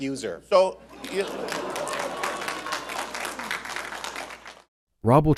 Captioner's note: laughter